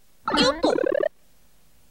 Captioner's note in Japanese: 効果音